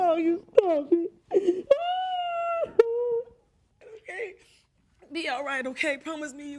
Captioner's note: sobbing loudly